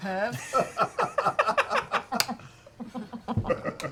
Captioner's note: laughter